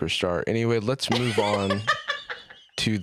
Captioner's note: laughs